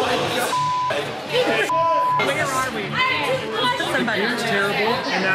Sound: beep

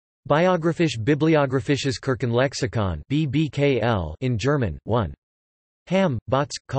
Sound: in German

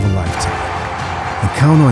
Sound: audience cheers

